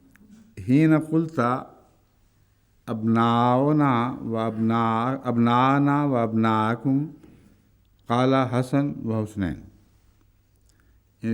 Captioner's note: Arabic